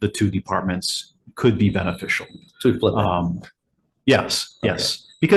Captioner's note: faintly speaking